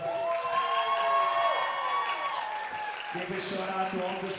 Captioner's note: audience cheering and applauding